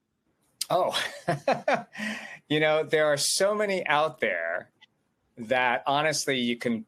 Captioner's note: chuckles